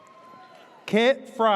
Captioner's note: audience cheers